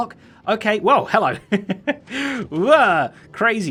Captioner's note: chuckles